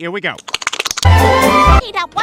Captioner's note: wanking noises; loud music